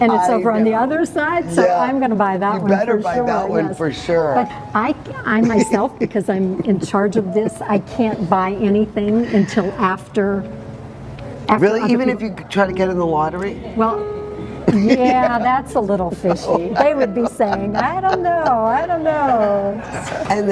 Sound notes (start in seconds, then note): 16.8 laughs